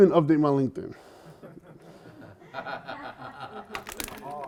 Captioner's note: laughter